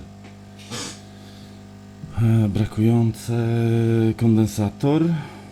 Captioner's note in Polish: parsknięcie